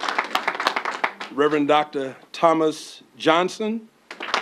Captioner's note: applause